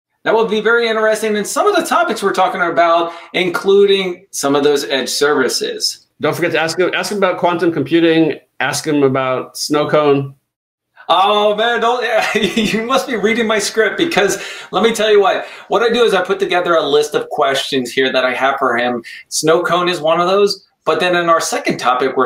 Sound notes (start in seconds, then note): 12.0 laughs